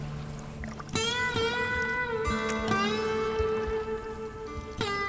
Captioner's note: water rippling